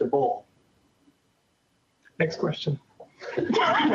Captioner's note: laughter